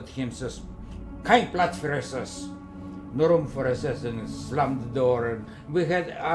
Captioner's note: German speaking